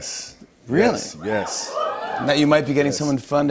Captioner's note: cheers